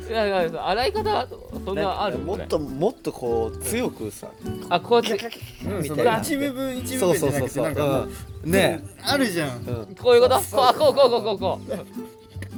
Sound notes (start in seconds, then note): 8.8 laughs